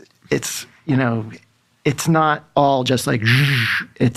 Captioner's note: imitates whooshing